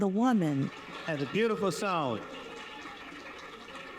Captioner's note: audience applauding